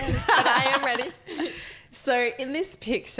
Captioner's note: laughing